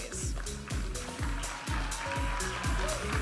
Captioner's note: audience applauding and cheering; upbeat music